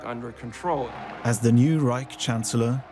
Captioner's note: crowd cheers